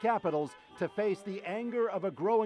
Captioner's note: cheers and Applause